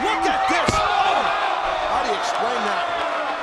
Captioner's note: body thuds; audience groans